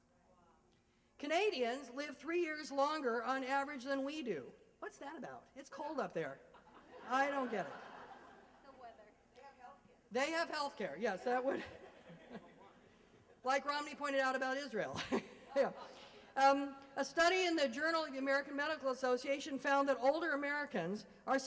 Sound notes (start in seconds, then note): 6.5 laughter